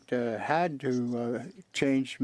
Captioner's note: speaking French